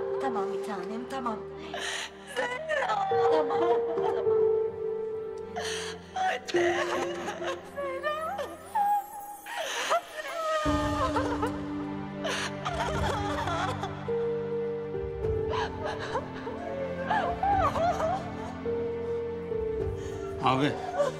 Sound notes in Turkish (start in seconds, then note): 9.1 Ağlıyorlar